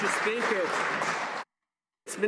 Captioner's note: some Applause